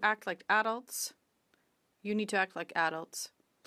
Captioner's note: speaking French